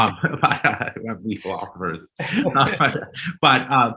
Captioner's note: men chuckling